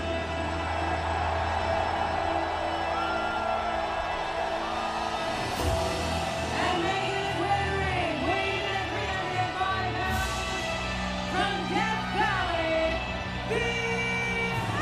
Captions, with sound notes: (troops cheer) (bell tolls) And making his way to the ring, weighing in at 305 pounds, from Death Valley, The Undertaker.